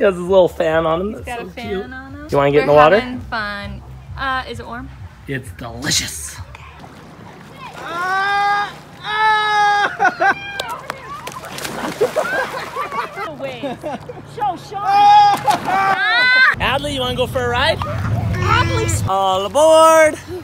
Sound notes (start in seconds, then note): 7.9 yelling; 11.8 laughing